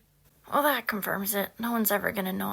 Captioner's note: Peter in voice over